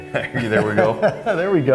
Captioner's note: laughs